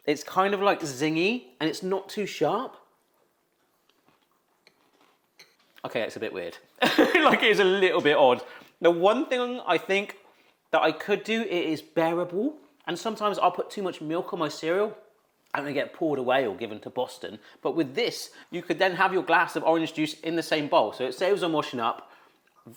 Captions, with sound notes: It's kind of like zingy and it's not too sharp. (cereal crunching) Okay. That's a bit weird. (laughs) Like it's a little bit odd. The one thing I think that I could do, it is bearable and sometimes I'll put too much milk on my cereal and they get poured away or given to Boston. But with this, you could then have your glass of orange juice in the same bowl, so it saves on washing up.